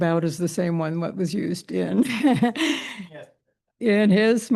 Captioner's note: chuckles